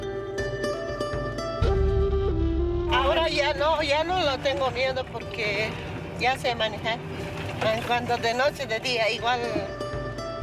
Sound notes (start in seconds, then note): 0.2 gentle music; 3.4 speaking in foreign language